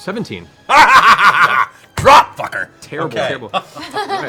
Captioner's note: laughs